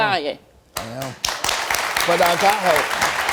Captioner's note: audience applauds